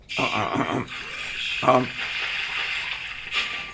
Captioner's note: clears throat